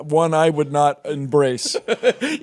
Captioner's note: Jordan laughs